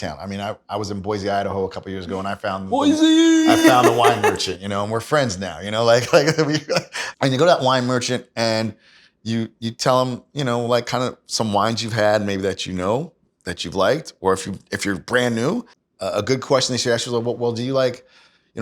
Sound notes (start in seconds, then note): 2.7 yells; 2.8 laughs